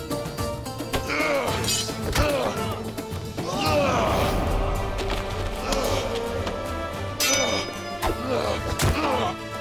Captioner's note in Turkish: Dövüş sesleri